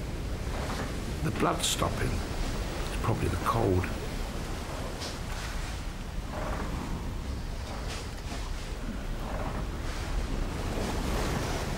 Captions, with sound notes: The blood's stopping. It's probably the cold. [water sploshing] [waves crashing]